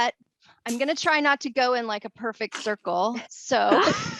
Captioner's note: laughter